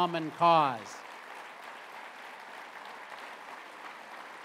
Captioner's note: applause